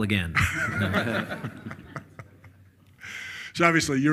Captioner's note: all laughing